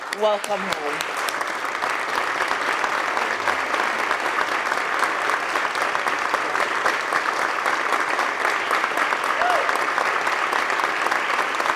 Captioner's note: applause